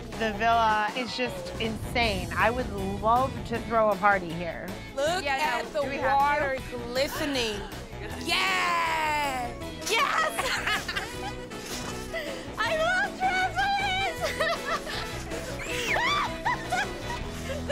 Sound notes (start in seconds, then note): 11.5 laughing; 13.9 laughing; 15.6 screaming; 16.1 laughter